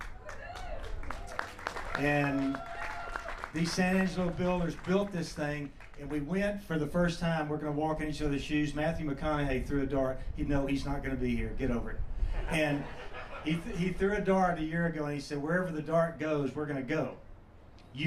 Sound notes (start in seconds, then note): 0.0 applause; 1.5 cheers; 12.3 laughs